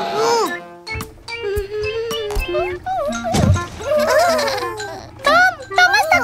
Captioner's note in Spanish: Risas